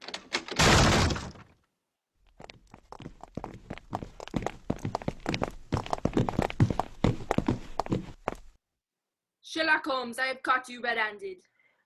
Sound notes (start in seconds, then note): 2.2 approaching footsteps